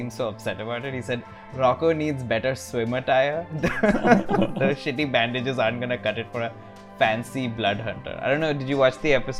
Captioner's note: laughter